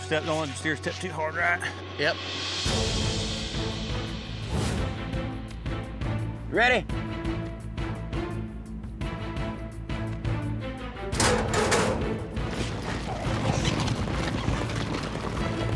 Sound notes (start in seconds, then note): 11.1 gate opens